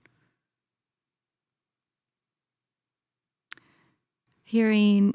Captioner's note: silence